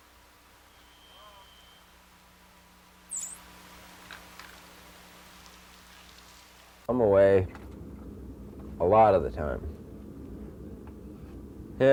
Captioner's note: door closing